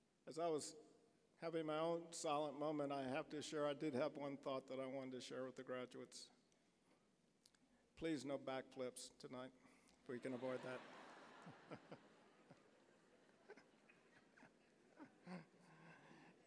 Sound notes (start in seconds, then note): 10.1 audience laughing; 14.3 chuckling